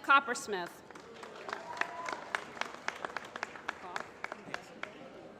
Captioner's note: applause